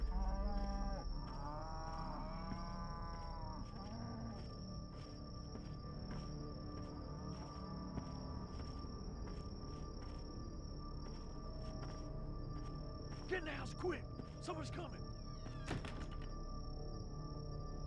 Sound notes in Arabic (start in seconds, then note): 2.8 موسيقى متوترة; 8.7 خطوات بطيئة; 15.4 الباب يُغلق; 17.2 موسيقى متوترة